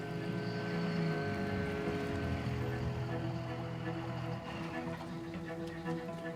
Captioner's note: gentle music continues; truck rumbling